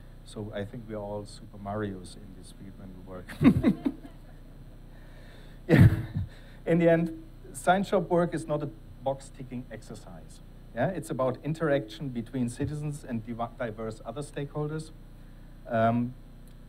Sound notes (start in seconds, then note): 3.3 laughs; 3.3 attendees laughing